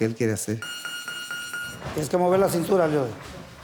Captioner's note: beeping